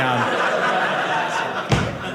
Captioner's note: audience laughing